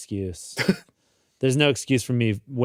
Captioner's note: chuckles